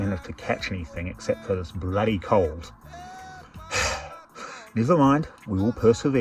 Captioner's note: exhales